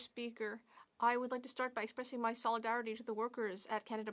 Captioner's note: speaking French